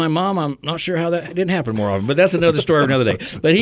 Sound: co-hosts laugh

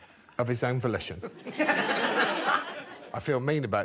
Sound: audience laughing

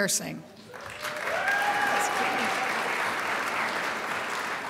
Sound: crowd applauds

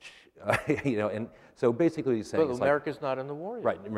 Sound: laughter

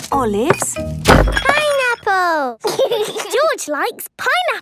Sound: bangs; laughs

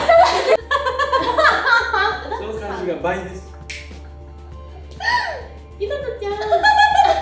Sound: chuckles and can't stop laughing

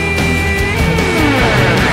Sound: anime scoffing noises

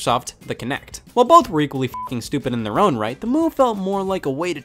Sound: beep

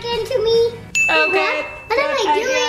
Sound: dinging

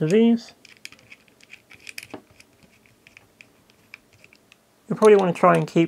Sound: near-silent screw tightening

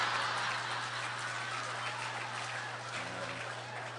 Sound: laughter

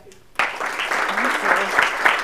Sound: applause

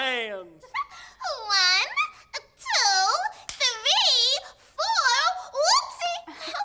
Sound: giggles

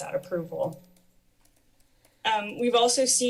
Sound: silence

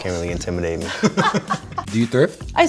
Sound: laugh

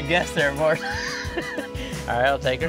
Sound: laughs

